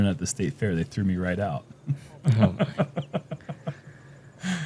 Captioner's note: laughs